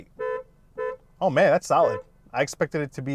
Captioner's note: klaxon honking